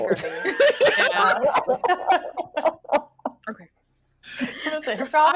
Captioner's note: people laughing